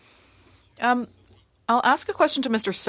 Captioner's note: speaking French